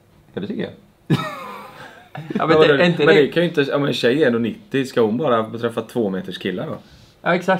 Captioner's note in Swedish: skrattar till; fniss